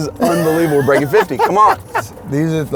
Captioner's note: laughs